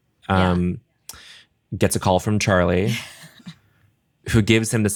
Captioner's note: laughs